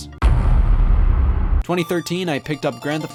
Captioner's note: heavy thud